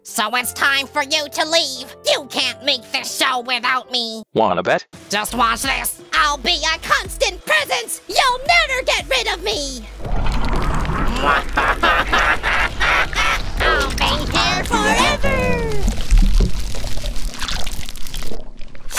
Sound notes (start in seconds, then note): 10.0 sinking noise